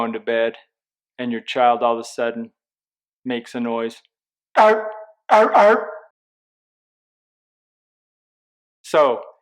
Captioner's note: seal barking noise